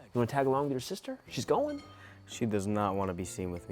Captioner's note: none